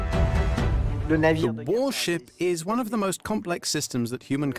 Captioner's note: voiceover